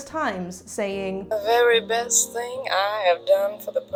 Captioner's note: Mae Voiceover "The very best thing I have done